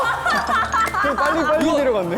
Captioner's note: laughing